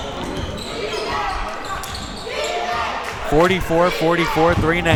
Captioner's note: crowd chanting defense